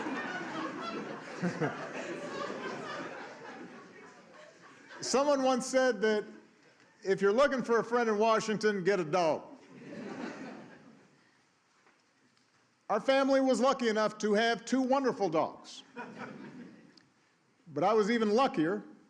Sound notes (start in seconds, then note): 8.8 laughter